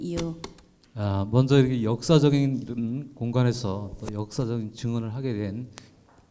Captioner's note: speaking in foreign language